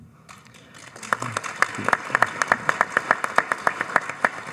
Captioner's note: all applaud